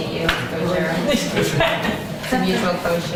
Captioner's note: laughter